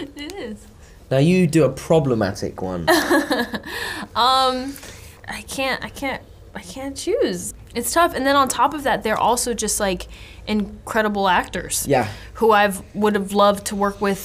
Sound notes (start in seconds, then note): 3.4 laughs